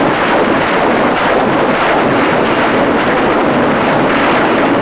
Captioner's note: rockets blasting